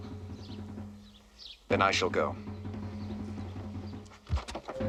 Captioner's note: scoffs